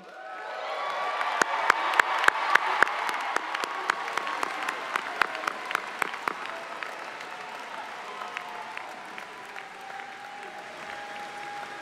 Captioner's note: applause